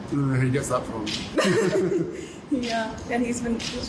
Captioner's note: both chuckling